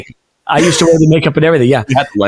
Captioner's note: laughing